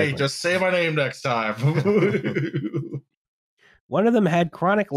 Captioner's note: chuckles